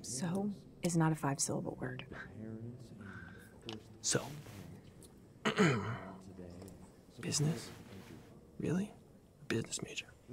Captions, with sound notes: - So is not a five-syllable word. (Emcee chattering faintly) - So. (clears throat) Business? Really? Business major?